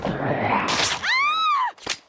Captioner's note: zombie biting